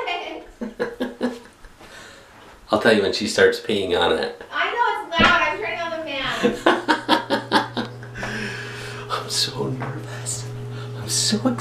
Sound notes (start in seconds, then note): 0.0 laughs; 7.2 laughs